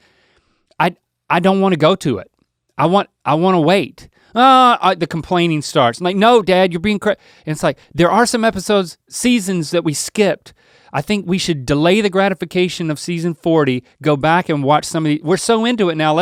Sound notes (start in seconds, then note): 4.4 Link yells